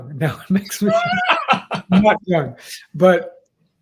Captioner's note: laugh